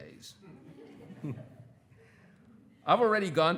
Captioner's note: everyone laughing